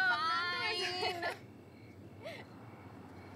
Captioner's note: Laughs